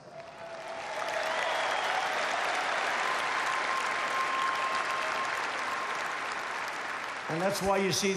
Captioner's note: applause